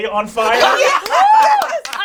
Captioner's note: all laugh